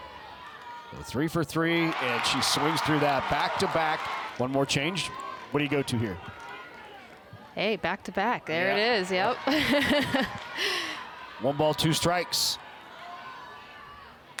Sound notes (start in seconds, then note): 9.4 chuckles